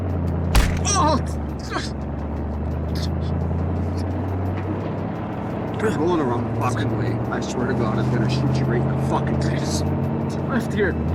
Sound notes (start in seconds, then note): 0.5 fist thumping; 0.8 Owen grunting; 2.8 vehicle droning